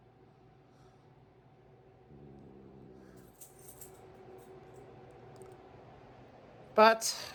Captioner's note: Caprice growls